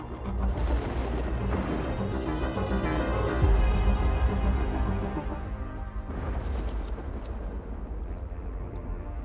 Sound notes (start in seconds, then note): 0.0 dreamy electronic music continues; 6.1 more thunder in the distance